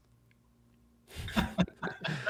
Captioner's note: chuckling